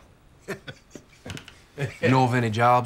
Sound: laughing

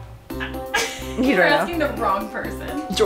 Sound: laughs

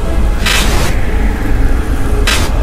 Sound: Gaster glitching

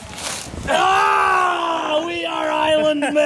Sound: yelling

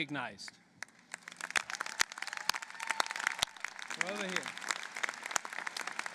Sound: applause

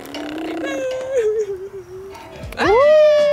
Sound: wails

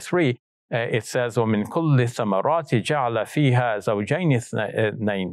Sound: speaks in Arabic

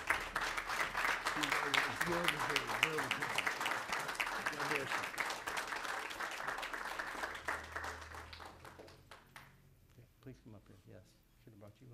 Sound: applause

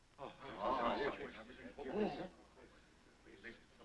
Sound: crowd chattering

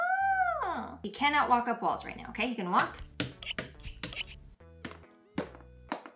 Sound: Mario walking noises

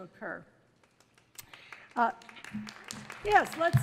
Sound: audience applauds

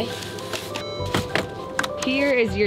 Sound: car beeping

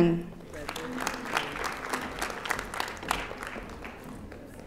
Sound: audience applauding

